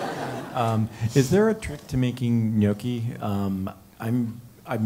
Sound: laugh

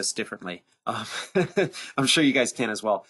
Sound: laughs

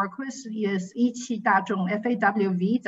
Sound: speaking in foreign language

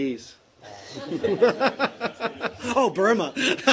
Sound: laughter

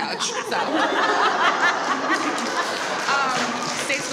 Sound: audience applauds

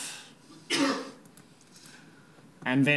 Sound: audience sneezing

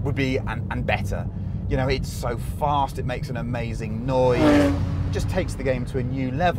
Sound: VROOOOMMMMMMmmmmmm

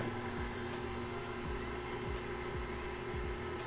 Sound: mixer whirs

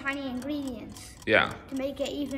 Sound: clock ticking

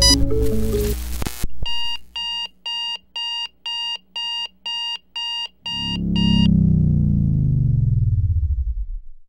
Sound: beeping, powing down

